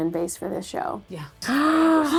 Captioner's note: gasping